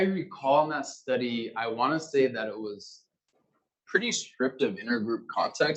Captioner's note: male Voice